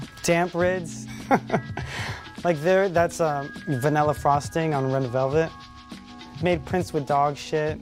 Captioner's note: laughs